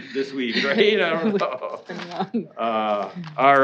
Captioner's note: laughing